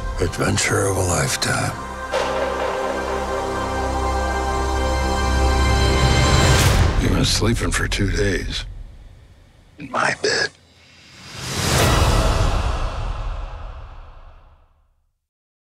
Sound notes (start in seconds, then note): 2.0 bark echoing